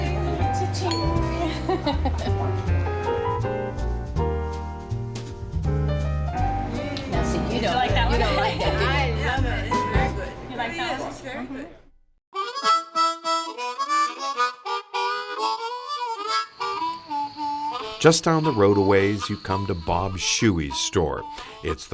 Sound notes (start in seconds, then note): 0.8 glasses clanking; 1.3 women laughing; 12.5 blues music